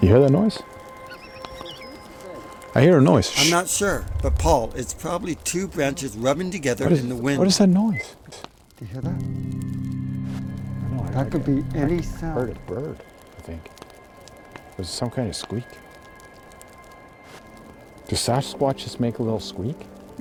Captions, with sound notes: You hear that noise? (Animals squeaking) (Fire crackling) I hear a noise, shh. - I'm not sure, but Paul it's probably two branches rubbing together in the wind. - What is that noise? - Do you hear that? That could be any sound... - I heard a bird, I think. It was some kind of squeak. Do Sasquatches make a little squeak?